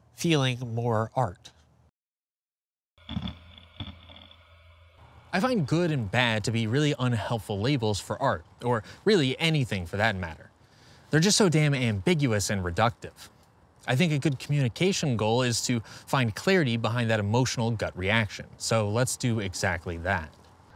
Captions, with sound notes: feeling more art. [grinding] I find good and bad to be really unhelpful labels for art, or really anything for that matter. They're just so damn ambiguous and reductive. I think a good communication goal is to find clarity behind that emotional gut reaction. So let's do exactly that.